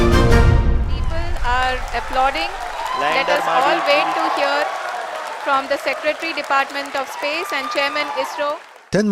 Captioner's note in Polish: Aplauz w centrum kosmicznym